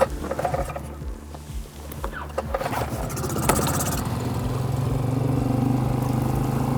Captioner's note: somber piano music; engine chugging